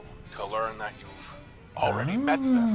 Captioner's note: laughs